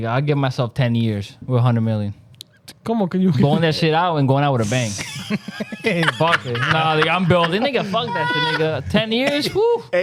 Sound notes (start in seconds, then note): 4.7 laughing